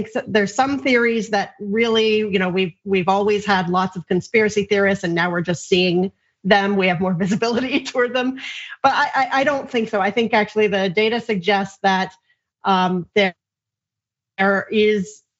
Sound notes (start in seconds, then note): 8.5 laugh